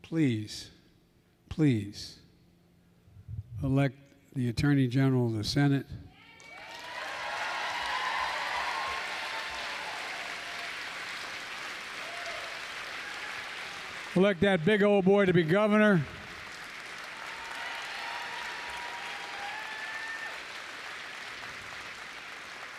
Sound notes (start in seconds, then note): 7.6 applause; 22.6 applause